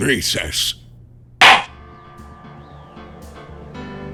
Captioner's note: gavel slams!